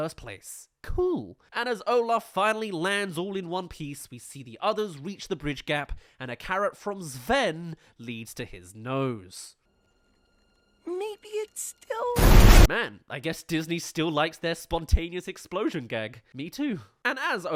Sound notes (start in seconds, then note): 9.5 crash